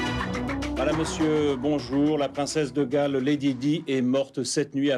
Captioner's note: speaking foreign language